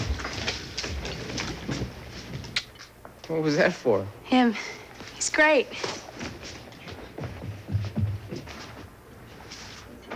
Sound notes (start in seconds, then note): 2.5 Smooch